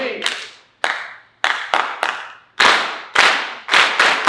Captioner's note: clapping in rhythm